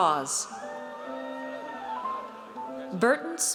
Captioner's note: audience cheers